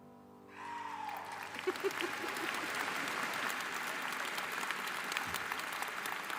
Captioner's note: audience cheering; laughing